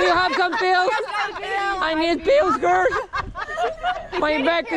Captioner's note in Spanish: Con voz de anciano